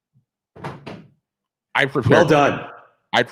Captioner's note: picture thudding